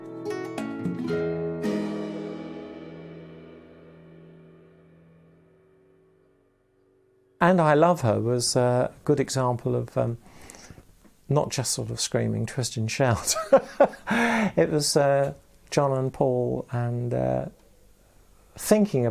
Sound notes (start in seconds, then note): 17.2 laughing